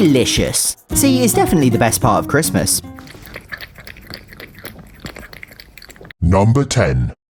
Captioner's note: Bella adorably slurping